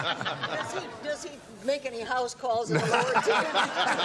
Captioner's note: laughter